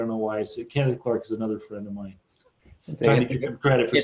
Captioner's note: laughs